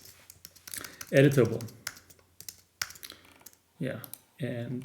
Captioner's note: keyboard clicking